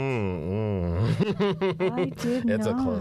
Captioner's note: laughter